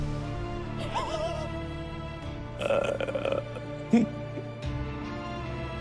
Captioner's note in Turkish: Gülüyor